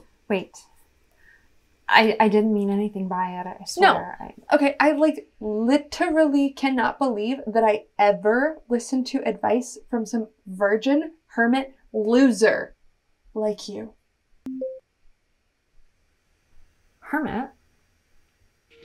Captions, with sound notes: Wait. I, I didn’t mean anything by it, I swear. No, I like literally cannot believe that I ever listened to advice from some virgin hermit loser like you. [Zoom log-off chime] Hermit?